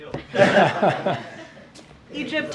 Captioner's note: laughter